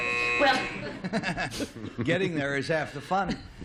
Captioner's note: buzzer; laughs